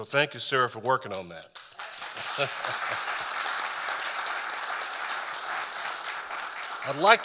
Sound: audience applauding

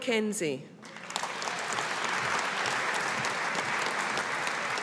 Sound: audience applauding

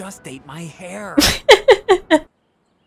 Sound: laughing

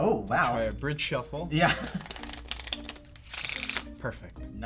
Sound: laughs

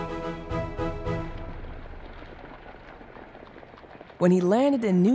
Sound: footsteps shuffling

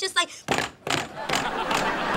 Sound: smashing

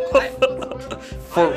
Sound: laughing

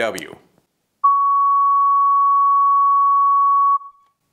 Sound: tone plays

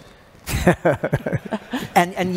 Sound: laughter

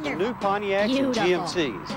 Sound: Dick the cricket, high-pitched

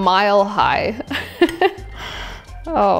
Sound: chuckling

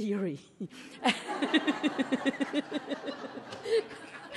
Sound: everyone laughs

